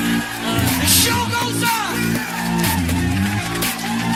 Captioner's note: Aplauze